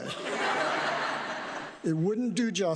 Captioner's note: audience laughs